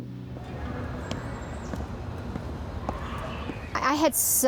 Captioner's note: feet patter